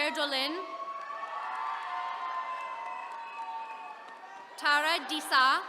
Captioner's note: attendees cheering